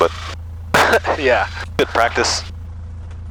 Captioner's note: laughing